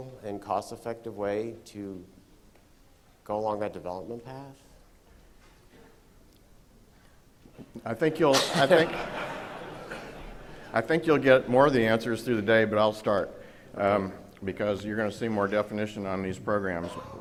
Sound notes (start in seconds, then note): 8.3 laughter